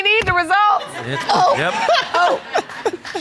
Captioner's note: laughter